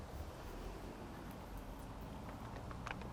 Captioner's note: none